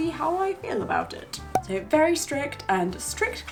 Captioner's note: air popping